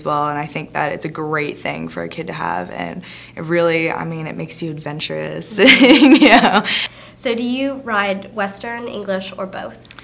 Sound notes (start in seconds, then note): 5.6 laughs